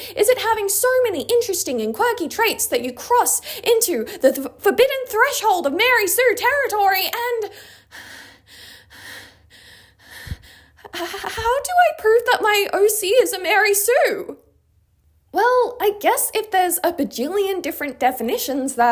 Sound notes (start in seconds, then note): 8.5 panting